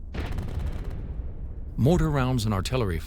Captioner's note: loud explosions; gunshots firing